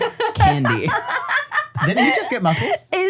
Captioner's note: laugh